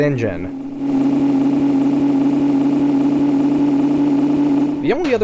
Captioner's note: one second of engine noise on loop